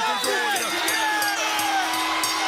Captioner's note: bell ringing; crowd cheering